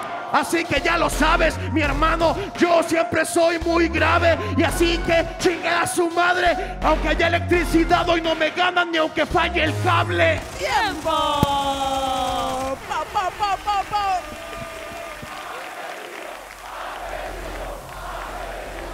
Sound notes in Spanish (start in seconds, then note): 14.2 Aplausos